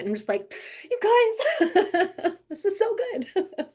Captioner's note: laughing